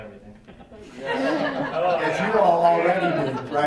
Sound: woman laughing

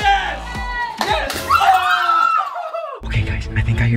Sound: screaming noises

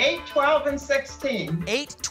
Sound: none

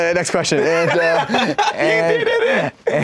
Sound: laughs

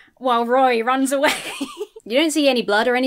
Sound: laughs

